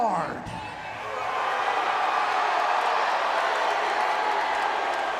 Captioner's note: audience cheering